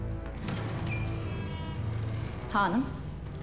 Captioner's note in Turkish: Kapı kapanma sesi